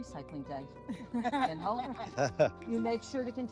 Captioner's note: laughing